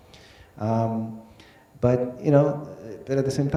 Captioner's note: none